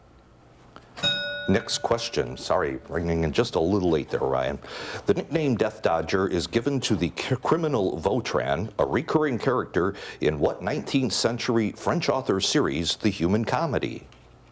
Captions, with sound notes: (bell ringing) Next question. Sorry, ringing in just a little late there, Ryan. The nickname "Death Dodger" is given to the criminal Vautrin, a recurring character in what 19th century French author's series, "The Human Comedy?"